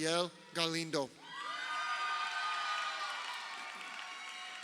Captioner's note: crowd cheering